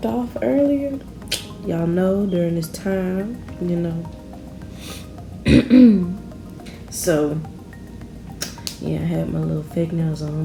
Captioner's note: clears throat